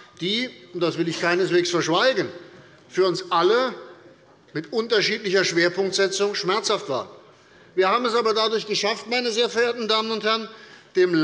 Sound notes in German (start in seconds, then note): none